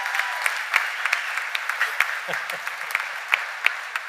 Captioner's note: cheers and applause; laughter